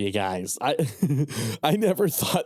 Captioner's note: laughs